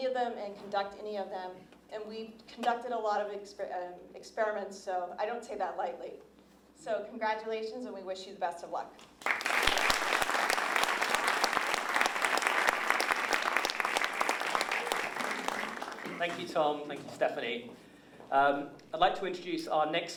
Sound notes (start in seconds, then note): 9.2 applause